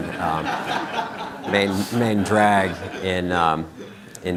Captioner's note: crowd laughing